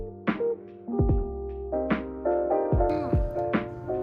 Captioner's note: thump